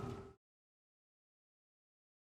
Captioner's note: none